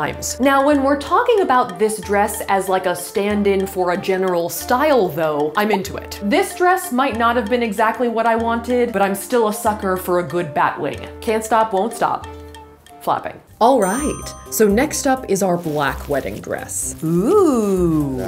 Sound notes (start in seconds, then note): none